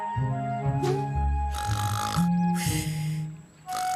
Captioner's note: snoring